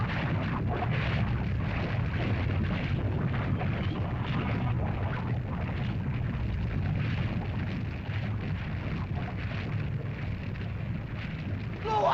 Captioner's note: lava bubbles & flows